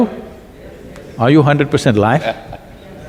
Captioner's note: Piyush Pandey laughs